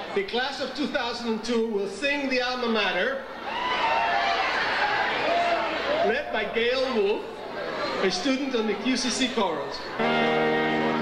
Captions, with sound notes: the Class of 2002 will sing the alma mater, (audience cheers) led by Gale Wolfe, a student on the QCC Chorus.